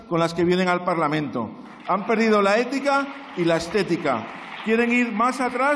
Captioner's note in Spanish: Aplausos